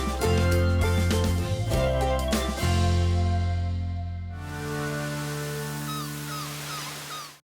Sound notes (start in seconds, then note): 6.2 seagulls chirping; 6.2 waves crashing